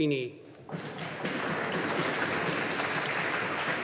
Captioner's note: audience applauding